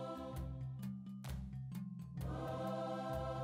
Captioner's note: hands clap